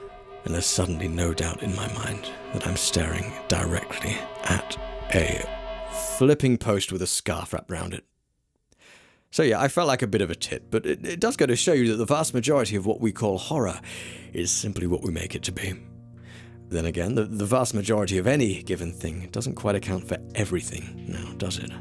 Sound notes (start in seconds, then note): 8.2 awkward silence